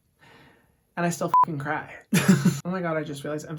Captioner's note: beep